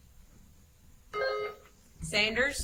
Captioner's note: buzzer chimes